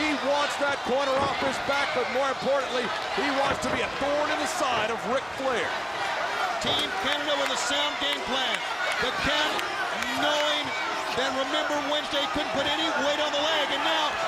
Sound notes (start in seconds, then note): 2.9 crowd chatter